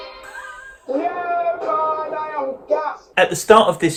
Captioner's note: laughs